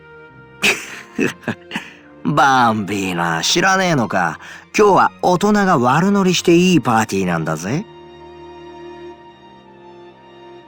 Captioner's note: chuckle